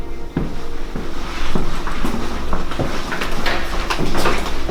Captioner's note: footsteps walking